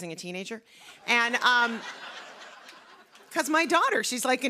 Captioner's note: laughter